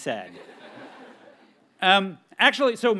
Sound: audience laughs

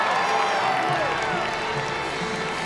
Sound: crowd cheering

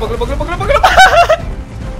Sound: evil + Bad laugh

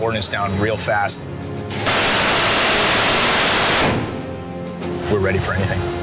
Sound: intense music; gun firing

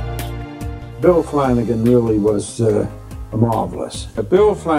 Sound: voiceover

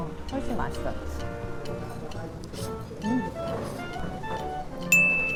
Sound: Inhaling Jajangmyeon

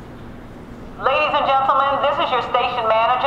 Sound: voiceover

